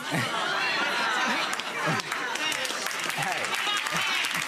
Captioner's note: chatter and applause